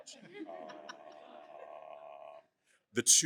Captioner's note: laughter